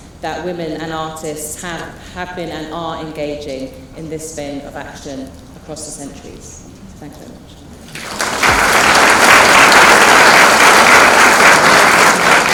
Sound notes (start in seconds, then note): 7.9 applause